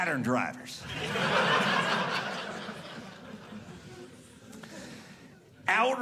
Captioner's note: audience laughing